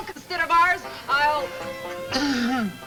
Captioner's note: speaker trails off